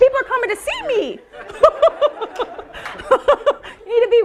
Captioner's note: laughing